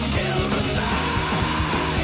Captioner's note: none